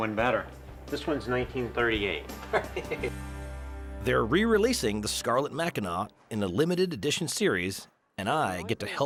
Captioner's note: laughs